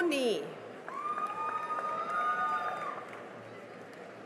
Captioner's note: cheering and applause